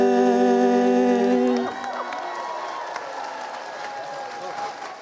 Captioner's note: cheering and applause